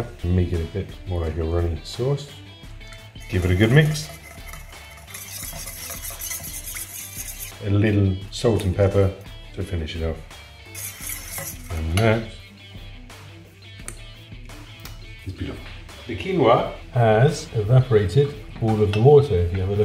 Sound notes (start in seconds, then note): 5.6 spoon scrapes bowl; 10.6 spoon scrapes bowl; 13.7 smacks as he tastes